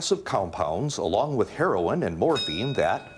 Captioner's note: bell dings